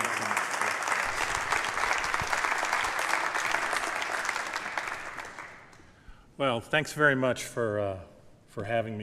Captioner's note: applause